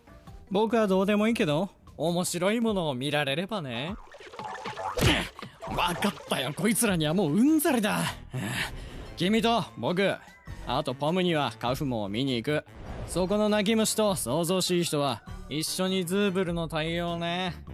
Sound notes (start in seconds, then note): 8.2 sighs